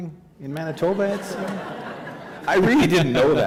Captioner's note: laughter